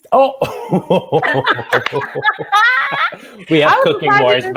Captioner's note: laughs